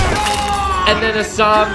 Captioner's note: bone breaking; man yelling